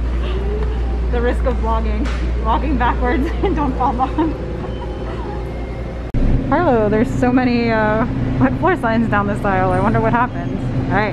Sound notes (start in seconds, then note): 3.1 laughs